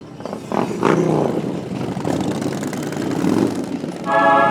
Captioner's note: engine revving